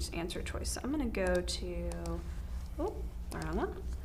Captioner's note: mouse clicks